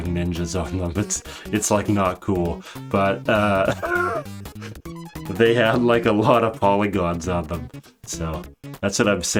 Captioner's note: laughs